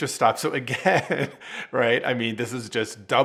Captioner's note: laughing